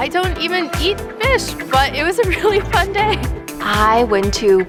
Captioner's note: laughs